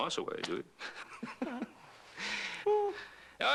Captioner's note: Ben chuckles